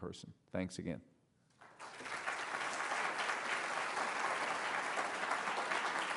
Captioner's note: applause